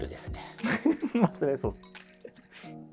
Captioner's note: laughing